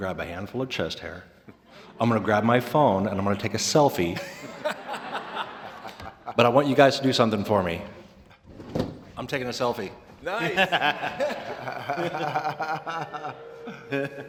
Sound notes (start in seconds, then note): 10.3 laughter